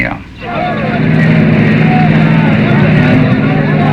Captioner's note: crowd chattering